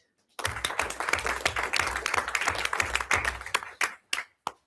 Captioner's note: everyone applauds